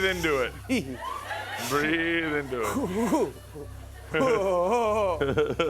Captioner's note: breathes deeply